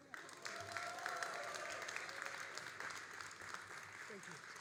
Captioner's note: all applauding and cheering